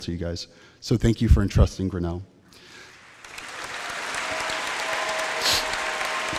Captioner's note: applause